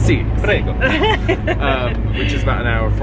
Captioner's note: laughing